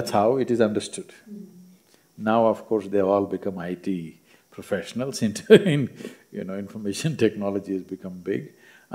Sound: laughs

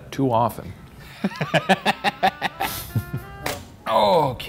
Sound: laughs

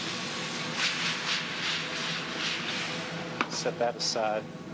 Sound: sizzling

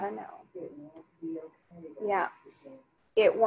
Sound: speaking faintly

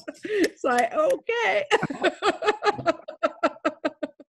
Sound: laughs; snapping

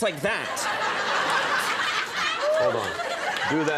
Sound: audience laughing

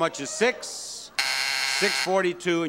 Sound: buzzer sounds

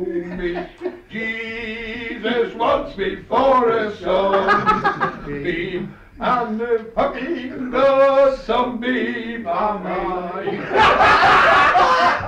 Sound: laughter; laughter

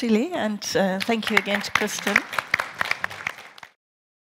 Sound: audience clapping

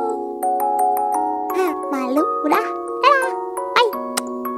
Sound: kiss

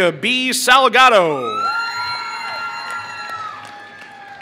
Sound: applause

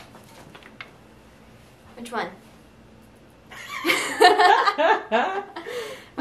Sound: both laugh

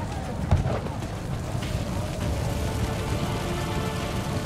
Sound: fire burning

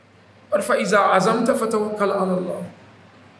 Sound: Arabic

